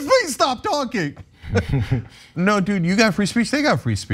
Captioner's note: laugh